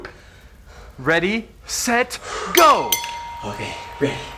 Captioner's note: bell rings; crowd cheers